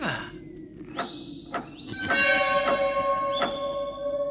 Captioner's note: knocks on the door